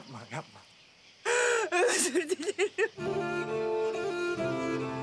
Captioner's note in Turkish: Ağlayarak